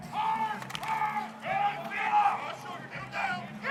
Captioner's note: players shouting